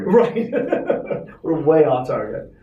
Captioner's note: laughing